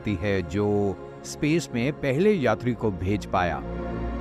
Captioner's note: man speaks russian